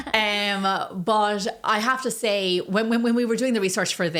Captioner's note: laughs